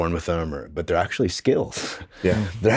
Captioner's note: chuckles